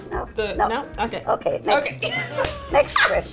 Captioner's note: laughing